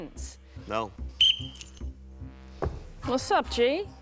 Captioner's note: whistle blows